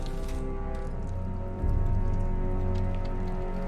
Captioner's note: none